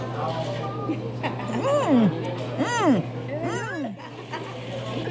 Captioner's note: laughs